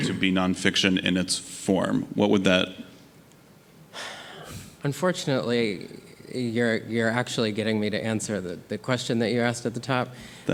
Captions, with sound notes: to be nonfiction in its form? What would that... - (sighs) Unfortunately, you're actually getting me to answer the question that you asked at the top.